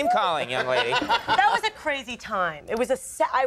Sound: Andy laughing

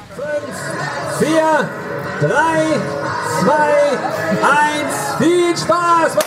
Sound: foreign language

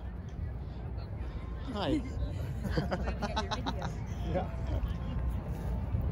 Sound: laughing

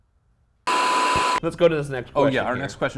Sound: static crackles

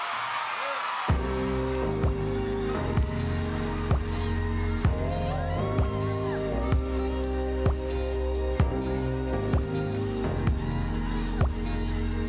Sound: applause

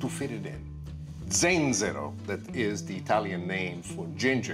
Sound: speaking in foreign language

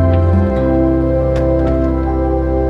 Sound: door closes; music fades

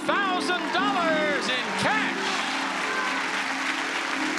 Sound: audience cheering

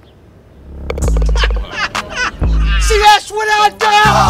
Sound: men laughing

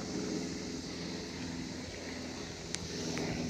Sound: faint engine noises

